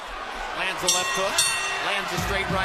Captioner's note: bell rings